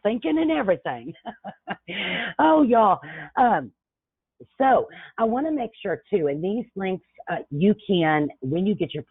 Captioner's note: laughs